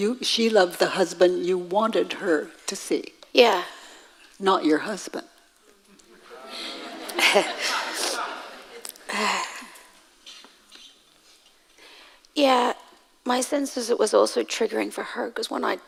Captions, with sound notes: - She loved the husband you wanted her to see. - Yeah. - Not your husband. (audience laughing) - Yeah, my sense is it was also triggering for her